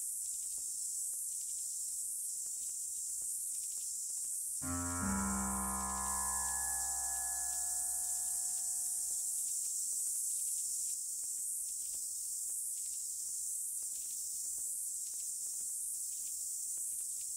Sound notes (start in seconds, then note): 4.6 ominous music; 7.6 insects buzzing and chirping